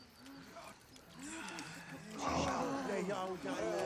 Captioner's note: tribe gasps